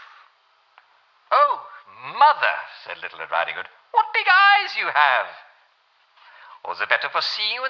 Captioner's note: German accent